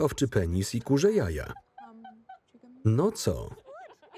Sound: Kym laughing

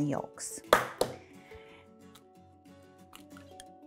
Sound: cracks egg

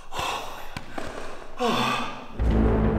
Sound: sigh

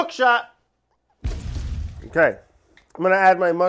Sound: exploding

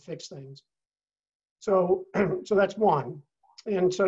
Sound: cough

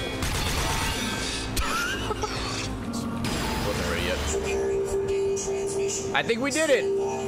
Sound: laughs

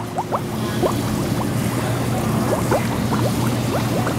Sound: running water

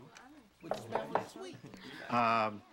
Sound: ocknk at doo r

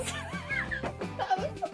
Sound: laughter

